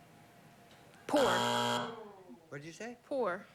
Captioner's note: buzzer